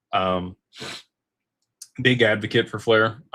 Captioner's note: snorts